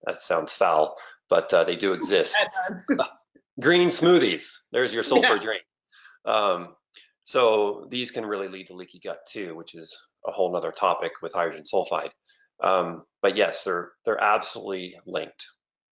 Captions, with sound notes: that sounds foul, but they do exist. - It does. (laughs) - Green smoothies, there's your sulfur drink. So these can really lead to leaky gut too, which is a whole nother topic with hydrogen sulfide. But yes, they're absolutely linked.